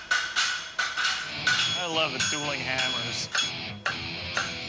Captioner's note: rhythmic clanking